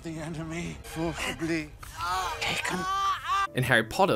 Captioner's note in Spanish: Harry grita